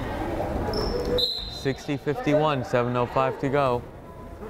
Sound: whistle blows

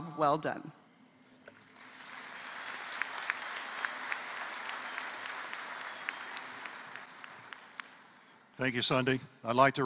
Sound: applause

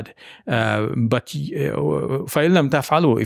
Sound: speaking in Arabic

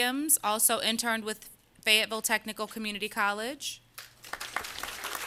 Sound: applause

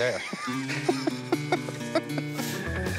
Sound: laughter

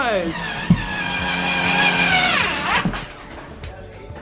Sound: drill buzzing

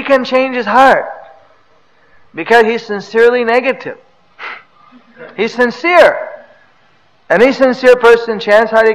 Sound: laughs

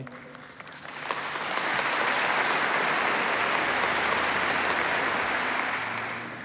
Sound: applause

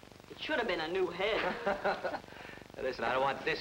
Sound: man laughing

